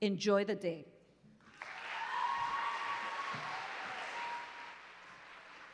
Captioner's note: applause